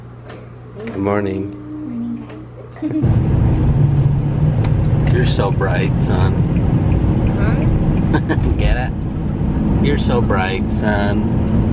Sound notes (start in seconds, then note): 8.7 laughs